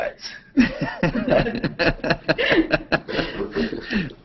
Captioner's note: laughter